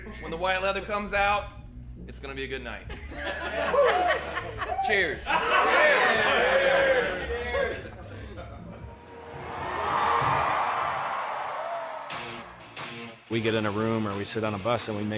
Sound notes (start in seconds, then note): 5.0 crew cheering; 5.0 yelling cheers together